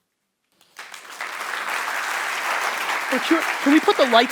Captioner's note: audience applause